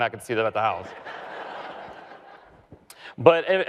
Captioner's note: audience laughs